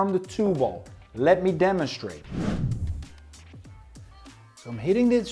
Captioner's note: air swooshes